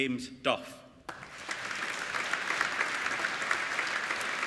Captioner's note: applauding